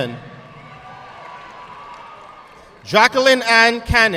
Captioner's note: audience clapping